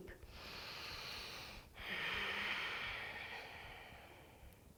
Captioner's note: deep breathing